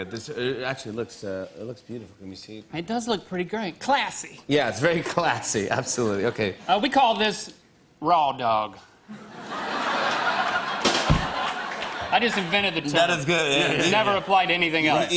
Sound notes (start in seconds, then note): 9.1 laughter; 10.6 rim shot